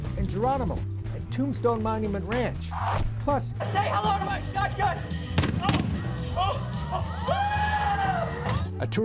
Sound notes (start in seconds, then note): 5.4 booms; 6.8 scream